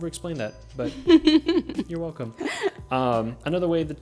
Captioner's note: laughing